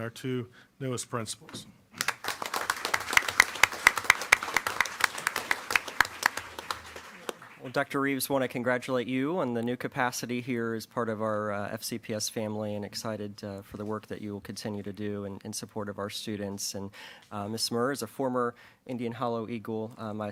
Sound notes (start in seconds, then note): 2.0 applause